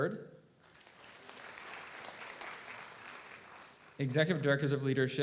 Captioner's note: audience applauds